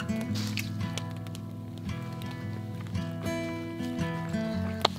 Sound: crackling flames

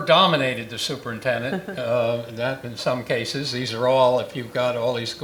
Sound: laugh

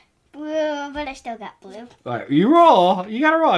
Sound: voiceover

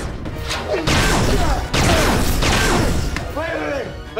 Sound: grunting

